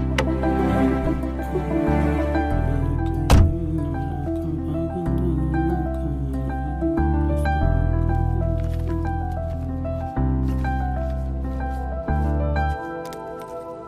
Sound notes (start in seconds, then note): 4.4 humming